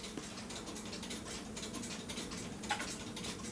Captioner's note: regular ticking